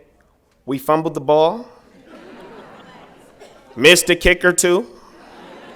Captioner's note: laughter